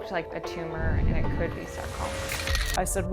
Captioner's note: shutter clicks